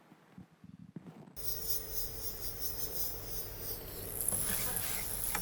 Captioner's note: electronic buzzing